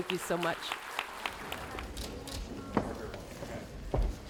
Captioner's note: applause